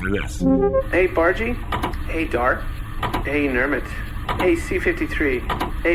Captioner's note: transmission-start noise; clicking between questions